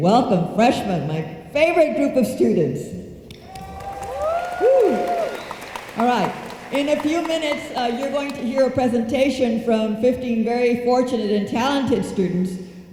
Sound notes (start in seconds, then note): 3.3 room applauds